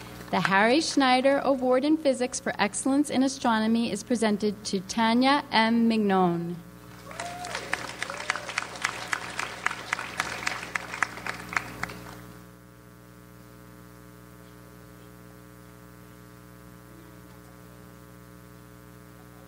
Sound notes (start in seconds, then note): 6.9 audience applauds